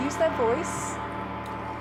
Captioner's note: gong